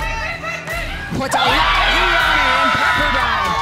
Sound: energetic cheering

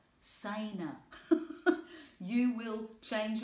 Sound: laughing

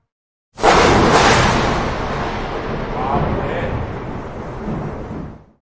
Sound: thunder claps

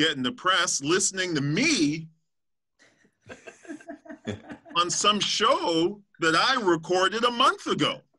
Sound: laughter

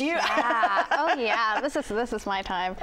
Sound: laughs

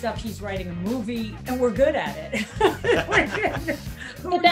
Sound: laughs

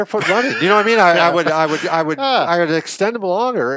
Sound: laughs

